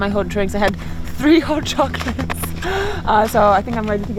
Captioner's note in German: lacht